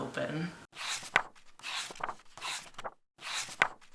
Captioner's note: pages turning